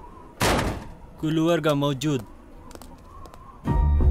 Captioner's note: Speaking in Arabic